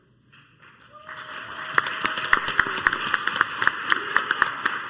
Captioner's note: crowd applauds